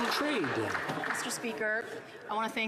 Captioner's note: some Applause